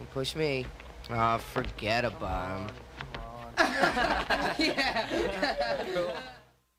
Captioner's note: laughter